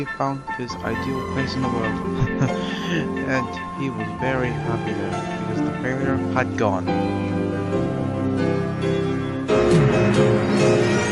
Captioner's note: laughs